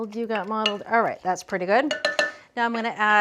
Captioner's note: spoon clanging